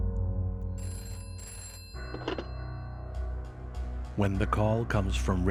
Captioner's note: phone rings